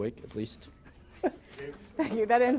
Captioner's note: laughter